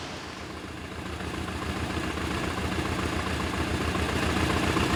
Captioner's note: motorcycle rumbling